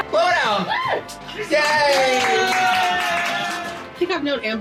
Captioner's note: applause?